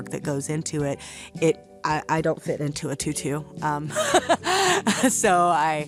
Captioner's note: laughs